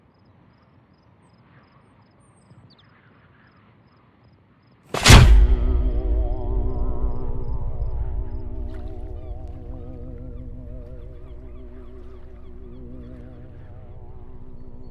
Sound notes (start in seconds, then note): 4.2 bird thumping the floor; 6.5 dramatic music; 9.0 water lapping; 9.2 gulls squawking